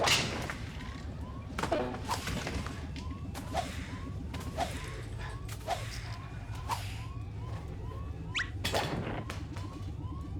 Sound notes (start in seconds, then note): none